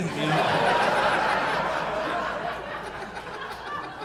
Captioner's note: audience laughing